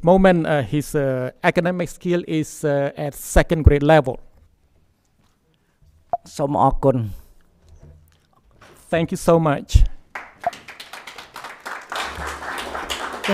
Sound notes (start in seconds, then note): 5.6 speaks in Khmer language; 10.1 audience applauding